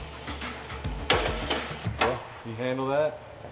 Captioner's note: upbeat music; thudding